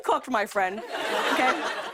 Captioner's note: laughter